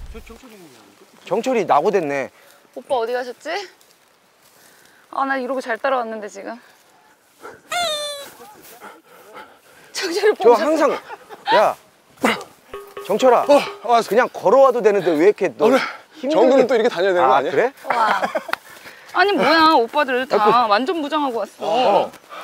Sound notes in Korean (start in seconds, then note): 17.8 웃음